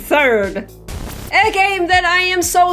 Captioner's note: white noise